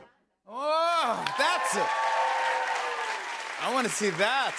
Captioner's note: cheers and applause